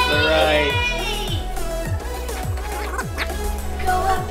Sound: children excited

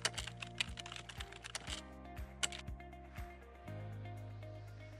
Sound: upbeat music; keyboard cluttering

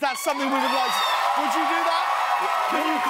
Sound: audience cheers

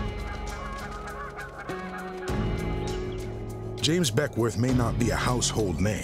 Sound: geese squawking

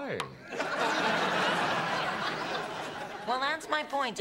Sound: laughter

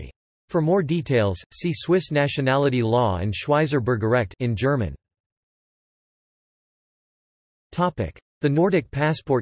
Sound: in German

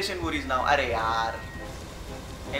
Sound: speaking foreign language

